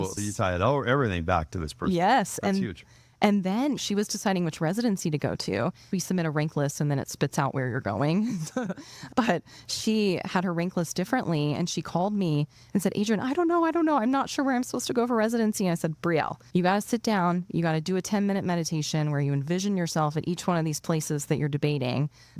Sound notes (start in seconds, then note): 8.2 laughing